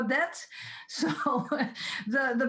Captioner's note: laughs